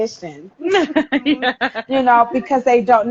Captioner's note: laughs